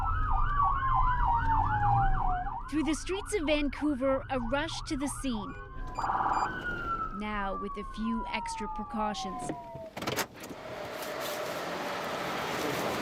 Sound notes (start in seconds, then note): 5.8 sirens